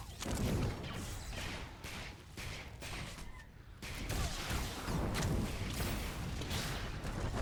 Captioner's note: gunshots